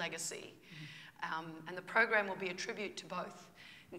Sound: voice breaking

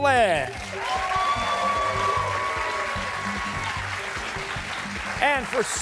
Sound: cheers and applause

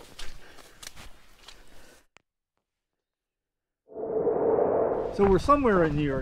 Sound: wooshhh

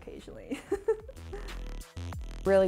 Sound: upbeat music continues; laughing

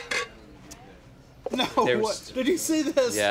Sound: chuckling

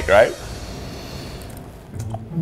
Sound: sniffs; sneaky music

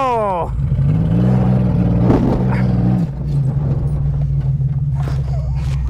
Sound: vehicle engine roars

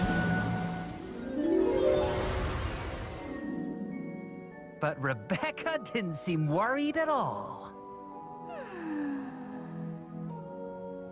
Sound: Rebecca sighs happily

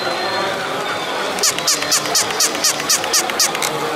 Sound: squeaking

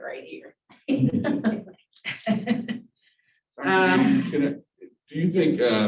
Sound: laughter

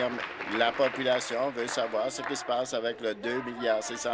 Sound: applause

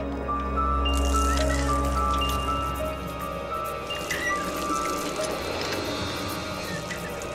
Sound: water pump squeaking, water splashing

